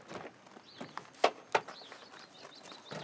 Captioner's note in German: Vogelzwitschern